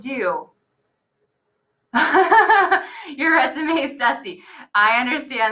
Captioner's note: laughs